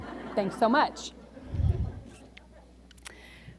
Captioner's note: laughter